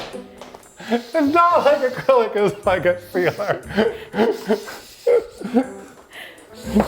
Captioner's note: laughing